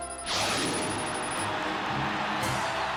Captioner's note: jet whooshes by overhead